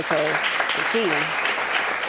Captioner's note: audience claps